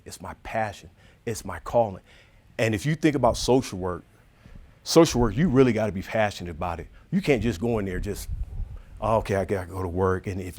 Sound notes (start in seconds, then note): none